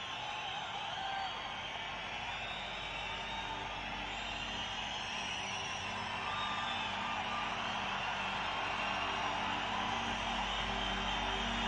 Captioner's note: cheering